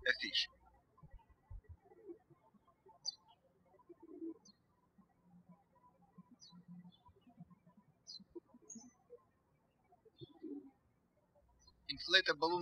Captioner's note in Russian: птички щебечут